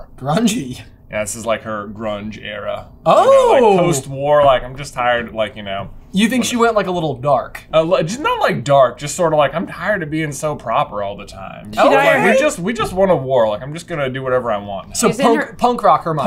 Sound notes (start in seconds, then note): none